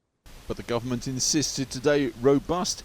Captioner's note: voice-over